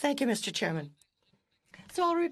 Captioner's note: speaking French